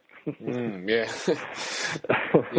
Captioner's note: laughs